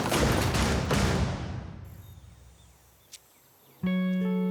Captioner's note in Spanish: estruendo